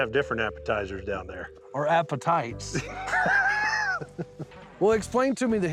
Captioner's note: chuckling